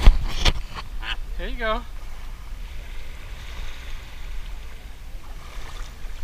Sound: flamingo squawks

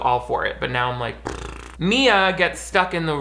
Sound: blows raspberry

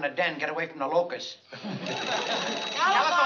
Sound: phone ringing

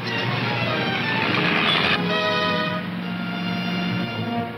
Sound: engine rumbling

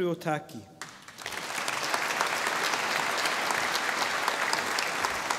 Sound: audience applauding

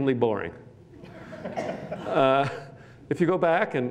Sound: laughter

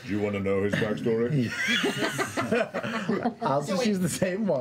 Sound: laughter

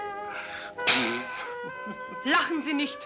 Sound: man laughing

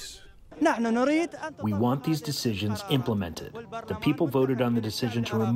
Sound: through translator

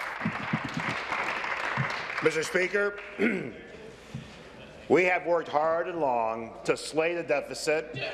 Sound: applause

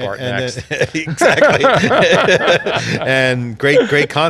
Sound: laughing

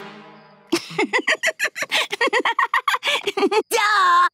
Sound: laughing

